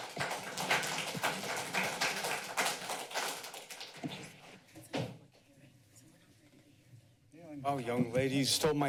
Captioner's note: applause